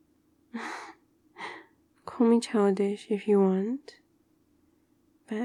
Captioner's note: laughs